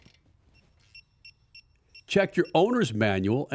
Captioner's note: tool beeping